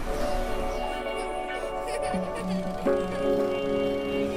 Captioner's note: children laughing